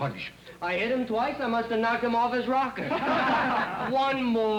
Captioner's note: men laugh